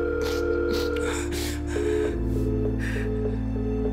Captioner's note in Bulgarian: телефон сигнал заето